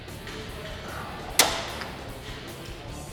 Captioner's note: metal clunks; upbeat music continues